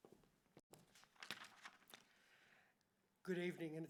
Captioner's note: paper rustling